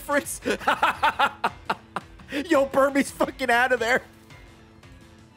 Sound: laughs

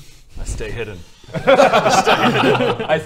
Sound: evil laughs

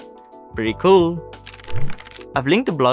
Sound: pages turning

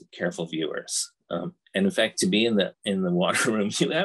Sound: chuckles

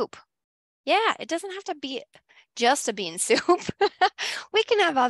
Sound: laughs

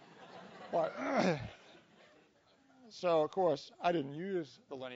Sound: cough

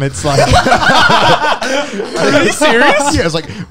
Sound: all laughing

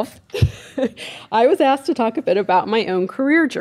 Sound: laughing

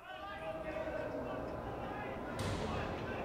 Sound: inmates yell

